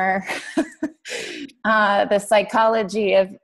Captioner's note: laughs